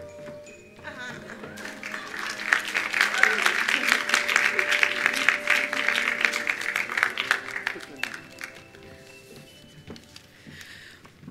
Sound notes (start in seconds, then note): 1.0 attendees applauding